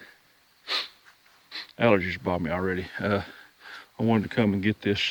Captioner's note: sniffing